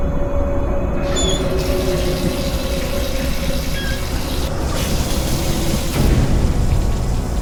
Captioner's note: knob squeaking; water splashing